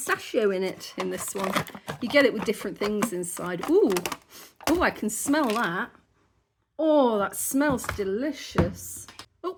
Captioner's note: sniff